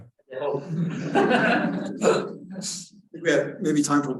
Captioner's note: all laughing